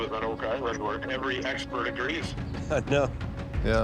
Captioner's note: chuckles